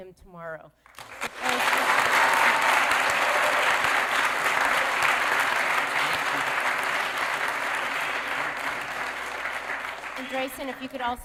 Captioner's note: applause